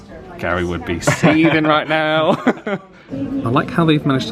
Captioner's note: laughs